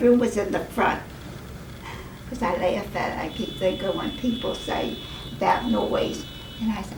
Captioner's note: horns honking